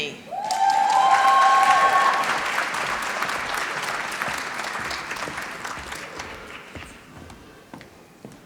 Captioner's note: applause